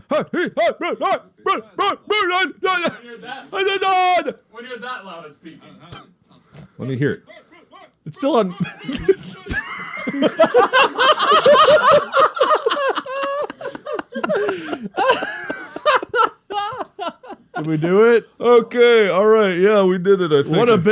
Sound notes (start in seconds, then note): 1.4 Mark, shouting noises; 8.4 All three laugh at Mark's dumb yells